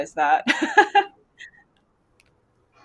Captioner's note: laughs